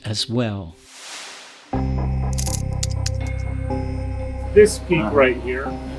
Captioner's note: suspenseful music; typewriter keys clicking